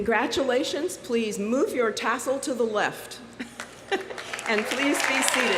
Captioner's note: laughs